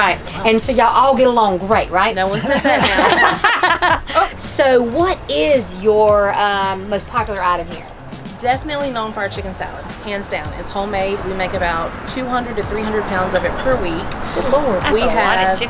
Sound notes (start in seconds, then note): 2.3 all laugh